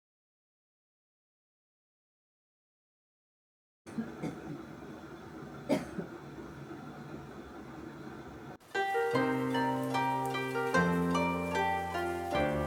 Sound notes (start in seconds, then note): 8.1 mom: cough, cough